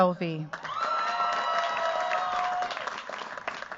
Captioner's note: cheers, applause